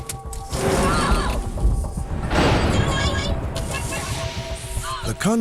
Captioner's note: screams